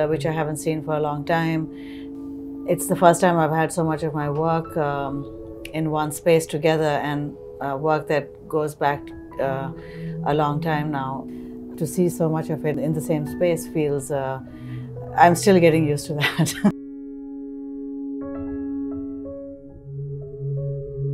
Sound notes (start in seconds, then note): 16.2 chuckling; 18.1 soft music